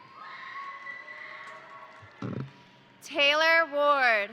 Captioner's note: crowd cheering; crowd applauding